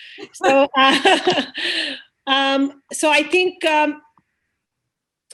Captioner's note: laughs